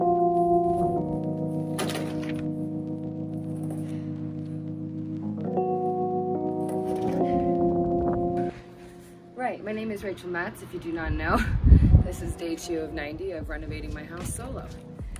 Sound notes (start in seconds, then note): 1.5 material thuds